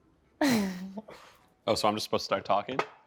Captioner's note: laughs